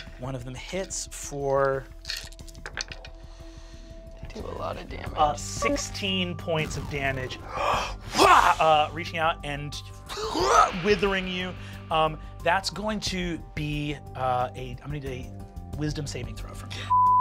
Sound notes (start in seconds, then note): 7.4 exhales dramatically; 10.1 gags